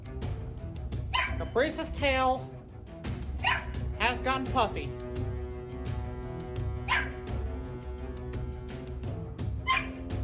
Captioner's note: Ella barks; Ella barks; music continues, continues barking